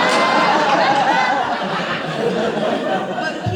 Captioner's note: audience laughs